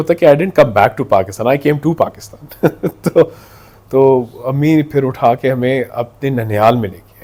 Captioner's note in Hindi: हंसी